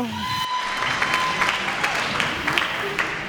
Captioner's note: applause